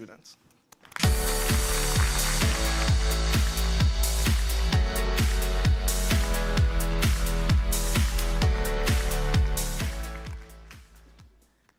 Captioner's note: applause